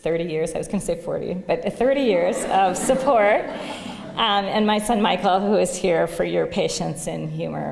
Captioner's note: laughter